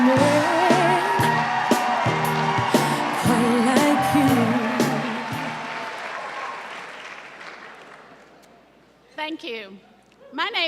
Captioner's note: cheers and applause